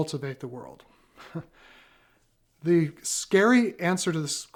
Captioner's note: laughs